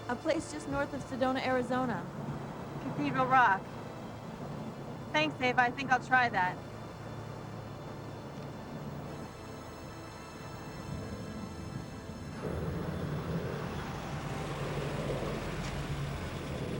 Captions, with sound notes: A place just north of Sedona, Arizona. Cathedral Rock. Thanks, Ava, I think I'll try that. (somber music) (airplanes whooshing)